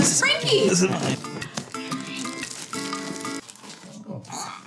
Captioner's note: paper tearing